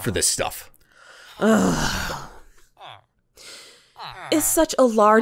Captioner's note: annoyed and exasperated grumble